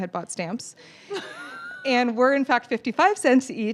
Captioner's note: laughs